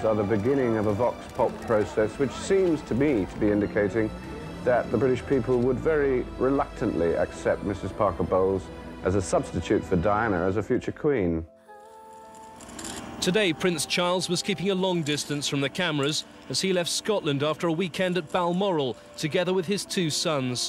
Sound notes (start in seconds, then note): 12.1 cameras snapping